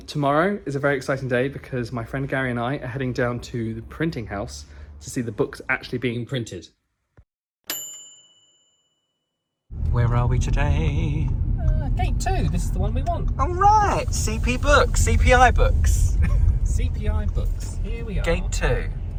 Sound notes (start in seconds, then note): 7.7 bell dinging